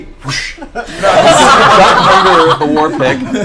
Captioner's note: all laugh